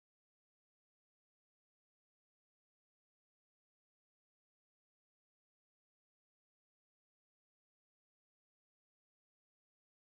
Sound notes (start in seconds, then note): none